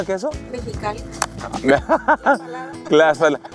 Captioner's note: laughter